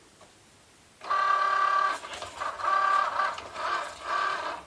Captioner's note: machine whirring